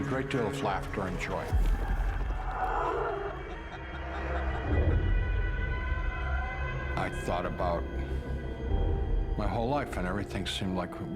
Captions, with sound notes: with a great deal of laughter and joy. [dark noises] [backround laughter] I thought about my whole life and everything seemed like